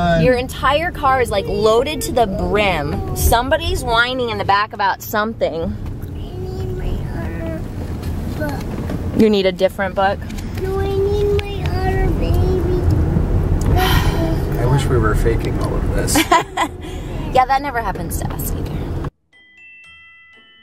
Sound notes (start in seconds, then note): 13.7 sigh; 16.1 laughs